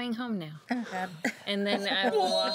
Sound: girls laughing

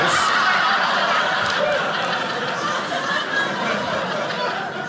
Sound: audience laughing

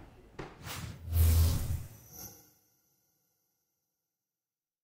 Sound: electricity surging

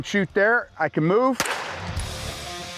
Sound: gun shots; dramatic music playing

